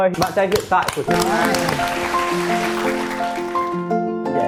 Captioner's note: applause